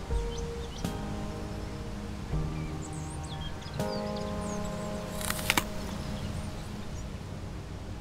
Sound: apple crunch

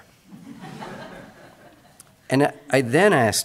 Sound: audience laughs

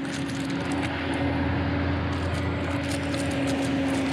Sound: engine rumbling

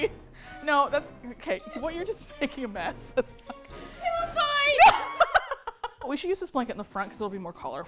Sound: laughs

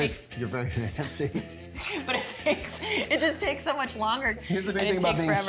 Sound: laughs

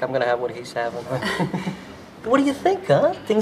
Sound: chuckling

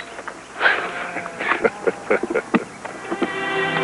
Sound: chuckles

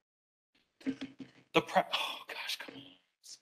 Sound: projector flickers

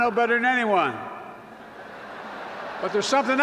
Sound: laughter

